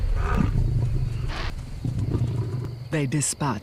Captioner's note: growling